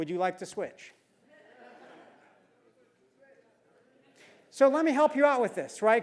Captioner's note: laugh